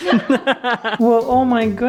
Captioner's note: laughing